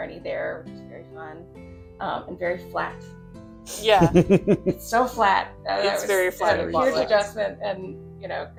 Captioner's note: chuckles